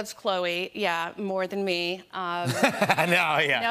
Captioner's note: laughter